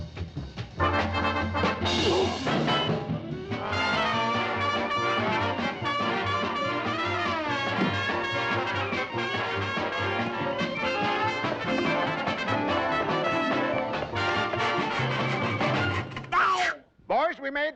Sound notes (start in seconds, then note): 0.9 grunting